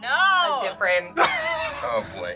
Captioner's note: laughs